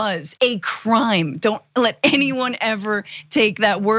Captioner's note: laugh